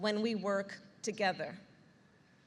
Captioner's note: none